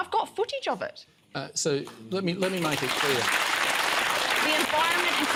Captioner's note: applause